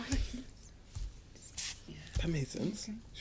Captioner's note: whispering